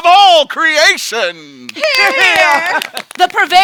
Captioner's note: clapping